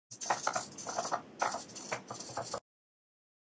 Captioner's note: sound of pencil scratching